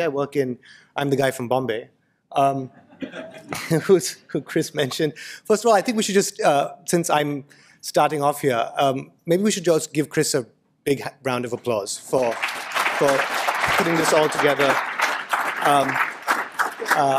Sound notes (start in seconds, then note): 2.7 laughter; 12.0 applause